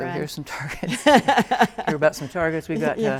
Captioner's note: laughs loudly